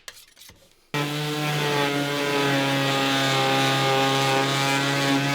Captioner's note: sander buzzing